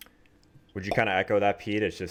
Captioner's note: popping sound